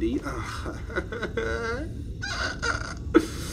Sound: nervous laugh

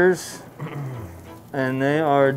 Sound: clears throat

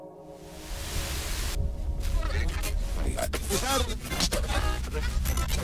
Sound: radio Static. Tuning

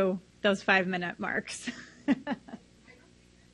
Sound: laughs softly

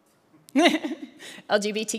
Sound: laughs

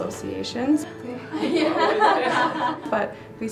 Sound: laughter in background to reaction

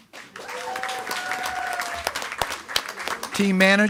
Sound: attendees clapping and cheering

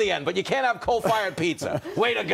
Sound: laughter

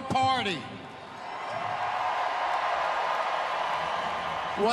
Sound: cheering

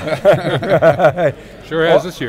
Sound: laughing

